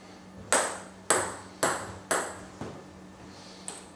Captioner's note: ball ping pong hitting